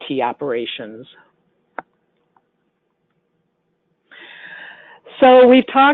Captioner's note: silence